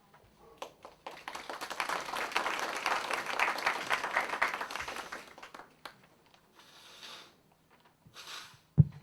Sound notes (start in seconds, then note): 0.6 audience applause